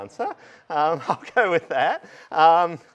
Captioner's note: laughter